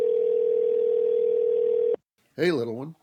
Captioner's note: phone ringing. Dad answers the phone